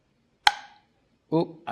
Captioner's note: jar lid popping